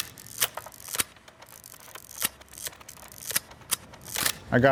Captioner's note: camera snapping